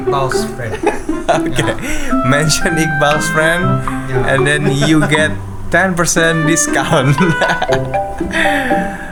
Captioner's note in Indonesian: tertawa; tertawa; terkesiap